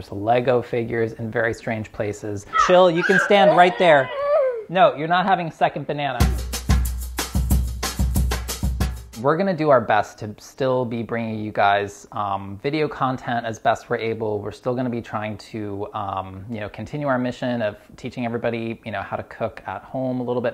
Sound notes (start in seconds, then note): 4.3 child whining; 6.3 upbeat music